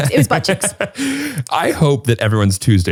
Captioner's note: laughing